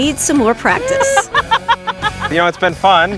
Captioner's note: laughing